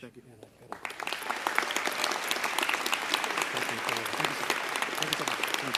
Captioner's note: applause